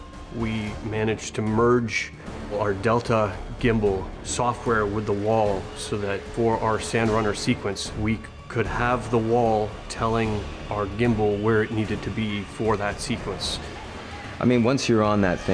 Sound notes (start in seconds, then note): none